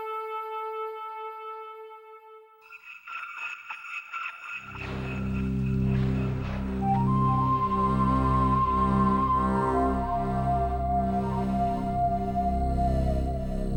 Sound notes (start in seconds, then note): 0.0 soft orchestra music and chimes; 3.2 whale calls; 5.5 mysterious orchestra music